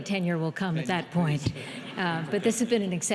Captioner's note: audience laughing